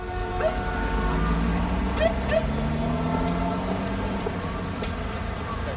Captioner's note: ambulance siren blipping